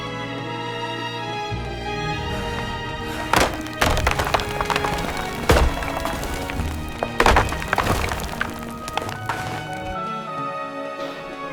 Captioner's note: footsteps